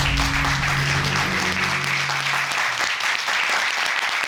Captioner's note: courtroom applauding